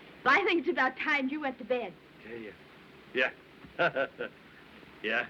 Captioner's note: chuckles